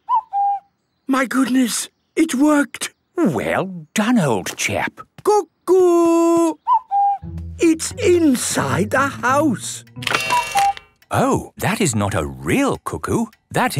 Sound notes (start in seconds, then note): 0.0 distant cuckoo; 6.4 distant cuckoo; 8.1 cuckoo clock